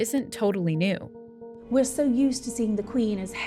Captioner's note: soundbite of archived recording